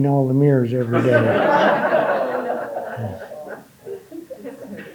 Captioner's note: audience laughing